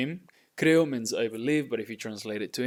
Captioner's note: speaking in Spanish